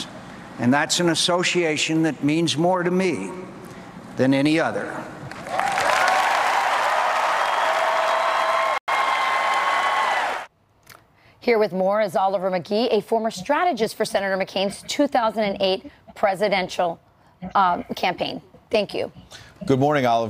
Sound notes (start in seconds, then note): 7.5 cheers and applause